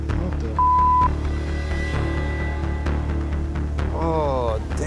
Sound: beeping

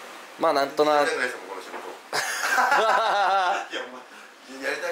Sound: laughs

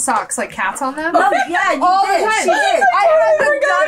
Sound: laughs

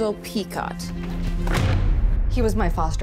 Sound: book slamming

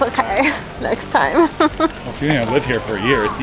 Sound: laughing

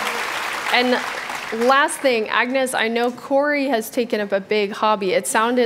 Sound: applause

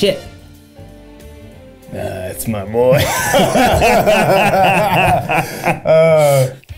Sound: both laugh

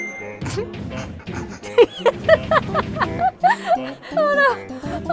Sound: snorts and giggles

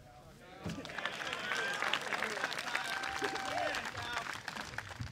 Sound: applause

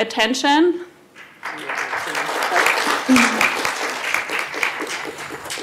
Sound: applause

